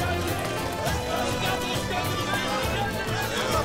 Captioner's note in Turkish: Hep bir ağızdan